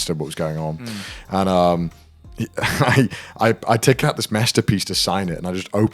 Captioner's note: chuckles